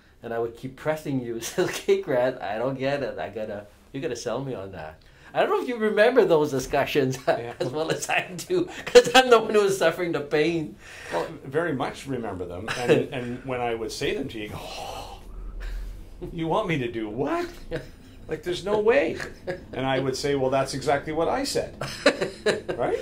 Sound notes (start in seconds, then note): 7.1 laughs; 14.4 sighs